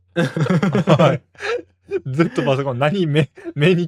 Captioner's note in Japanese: 笑い